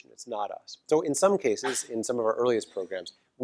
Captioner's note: cough